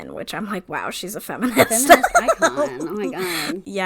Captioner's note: laughs